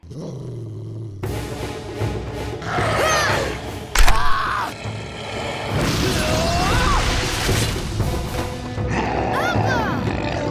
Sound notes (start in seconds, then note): 0.0 growling; 2.6 growling, grunting; 4.1 screaming